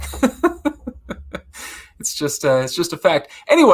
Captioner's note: laughs